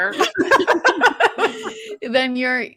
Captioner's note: presenters laughing